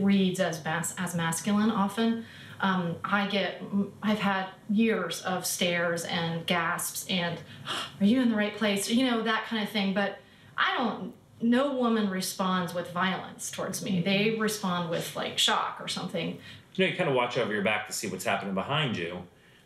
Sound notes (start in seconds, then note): 7.5 gasps